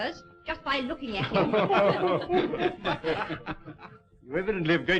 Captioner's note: all laughing